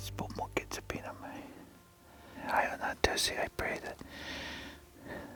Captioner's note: speaking in foreign language